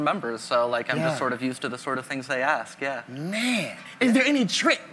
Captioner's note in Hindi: none